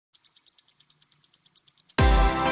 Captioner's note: ticking